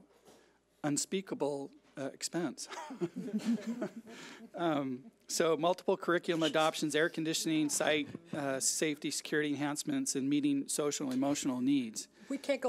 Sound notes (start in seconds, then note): 2.7 laughs